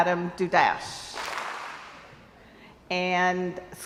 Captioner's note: crowd applauds